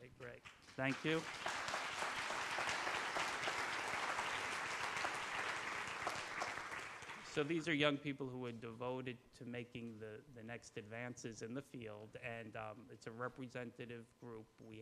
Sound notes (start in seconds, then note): 2.0 applause